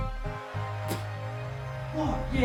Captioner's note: spit